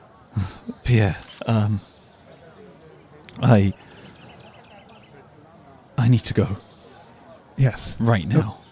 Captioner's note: sighs